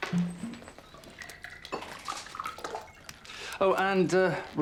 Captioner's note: scotch pouring